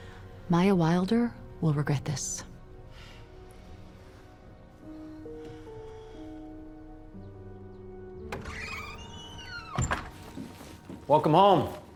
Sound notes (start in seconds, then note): 3.6 soft music; 8.2 door opens and closes